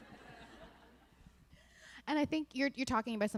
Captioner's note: laughter